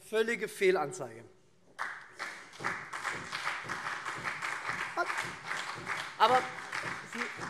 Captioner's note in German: Beifall SPD und CDU